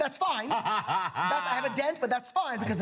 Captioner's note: laughs